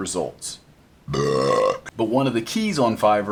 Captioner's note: burps